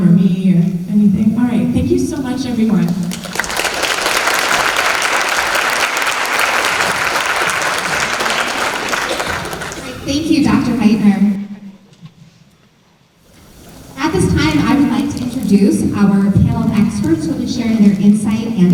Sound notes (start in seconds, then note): 2.8 applause